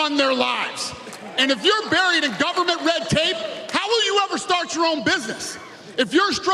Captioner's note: cheers and applause